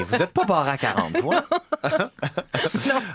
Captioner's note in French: rires